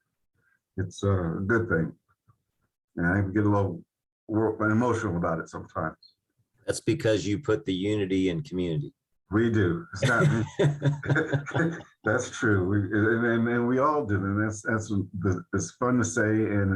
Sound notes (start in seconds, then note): 9.9 laughing